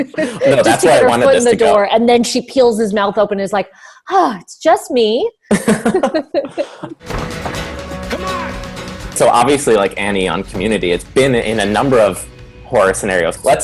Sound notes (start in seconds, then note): 0.0 laughs; 4.8 sighs; 5.5 laughs; 7.0 country music